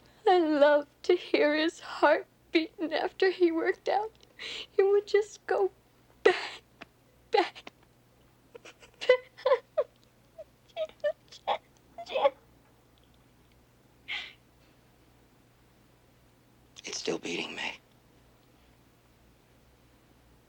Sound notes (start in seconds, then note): 8.8 sobbing